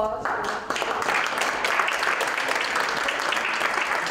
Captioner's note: applause